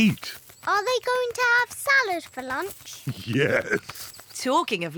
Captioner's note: laughs